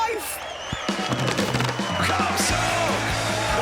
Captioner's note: cheering